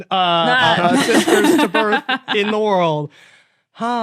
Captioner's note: others laughing